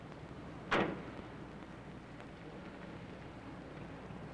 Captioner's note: car door thuds